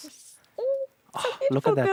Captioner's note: squeals